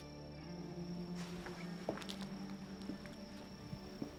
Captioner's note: footsteps